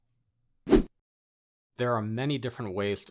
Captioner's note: graphic whooshes